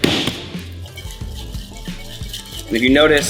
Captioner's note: bang; sloshing